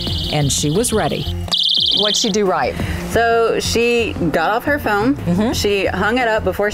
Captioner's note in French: alarm sound